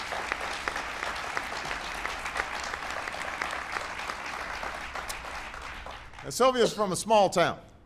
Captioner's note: applause